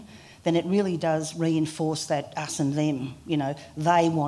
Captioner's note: none